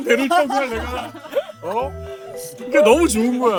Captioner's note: crying